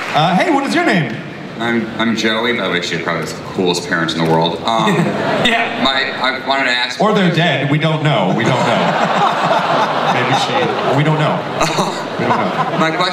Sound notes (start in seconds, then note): 8.2 audience laughing